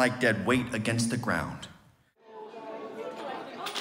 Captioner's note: group chatters